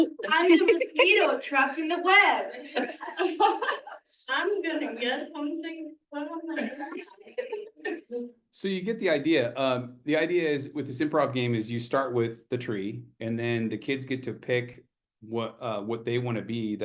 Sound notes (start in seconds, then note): 3.3 participant chuckles